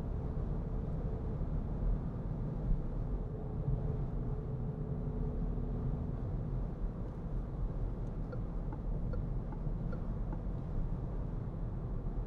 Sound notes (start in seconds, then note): 8.0 turn signal clicking